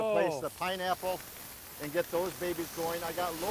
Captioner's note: pineapples sizzling